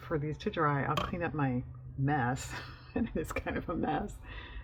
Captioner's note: laughs